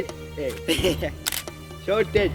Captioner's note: laughs